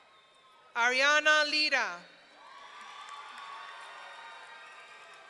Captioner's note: audience cheering